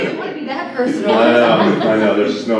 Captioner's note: laughter